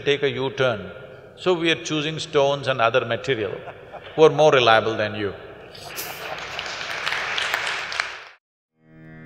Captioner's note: laughter/Applause